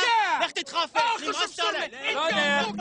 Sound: yelling

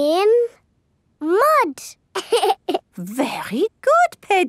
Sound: laughs

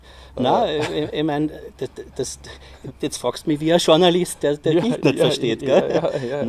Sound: laughs

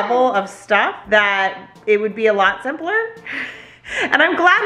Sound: laughs

